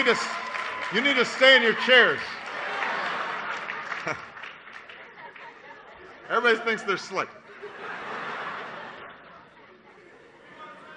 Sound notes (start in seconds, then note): 0.0 applause